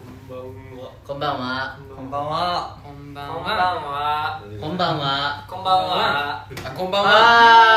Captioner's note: with kansai accent